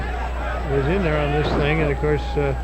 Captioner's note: wrestlers thudding